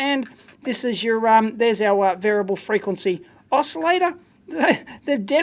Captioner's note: chuckles